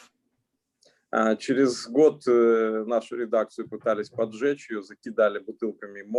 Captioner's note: speaking Russian language